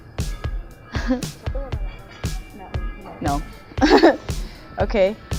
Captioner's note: laughs